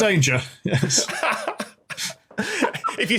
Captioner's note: laughs